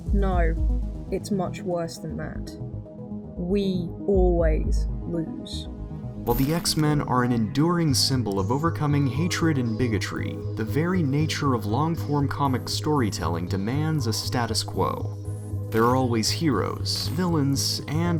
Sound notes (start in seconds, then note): 6.4 voiceover